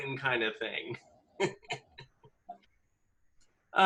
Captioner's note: laughs